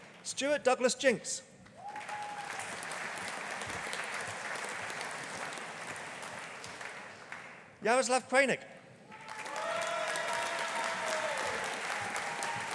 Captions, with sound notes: Stuart Douglas Jinks. (AUDIENCE APPLAUDING) Yaroslav Kraynik. (AUDIENCE APPLAUDING)